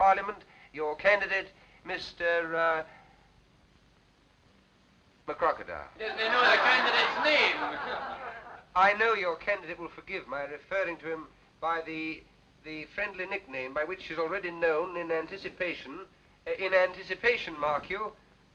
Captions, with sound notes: your candidate, Mr McCrocodile. - He doesn't know the candidate's name. - [ laughter ] I know your candidate will forgive my referring to him by the friendly nickname by which he's already known in anticipation, mark you